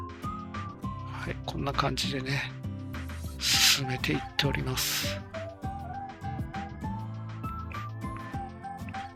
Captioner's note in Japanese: 鼻息